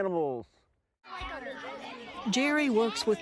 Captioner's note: collective chatter